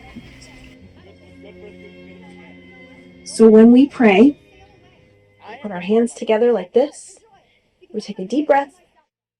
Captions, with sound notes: (parents continue yelling) So when we pray, we put our hands together like this, we take a deep breath.